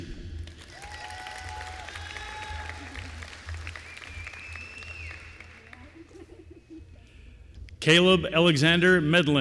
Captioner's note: applause